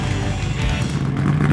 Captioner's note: engine idling